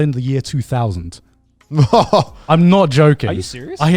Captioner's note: laughs